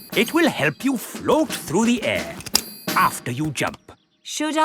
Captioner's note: clicking